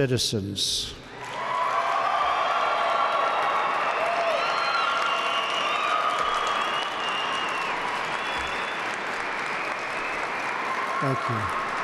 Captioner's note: applause